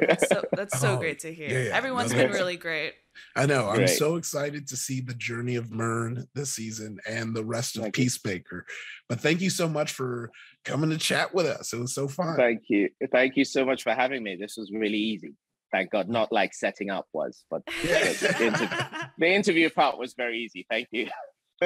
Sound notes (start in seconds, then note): 17.7 all laughing